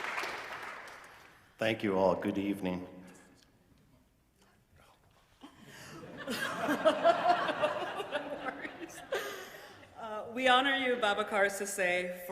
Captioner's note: applause